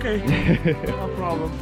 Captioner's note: laughs